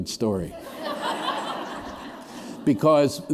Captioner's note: laughter